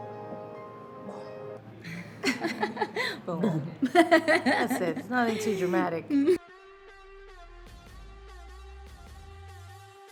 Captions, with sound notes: (laughing) That's it, it's nothing too dramatic.